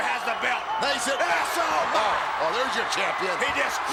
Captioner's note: commentators exclaim